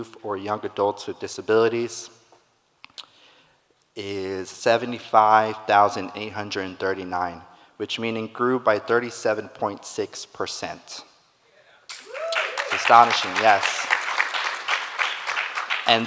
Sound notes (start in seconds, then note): 11.9 audience cheering; 14.1 audience clapping